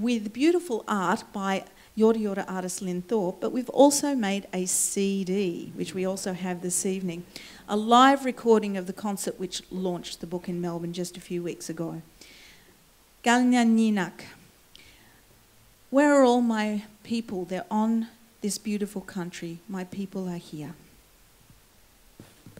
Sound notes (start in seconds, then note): 13.4 foreign words